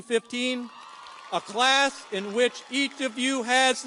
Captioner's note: audience cheers and applauds